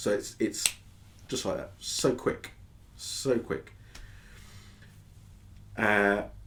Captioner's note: a finger snap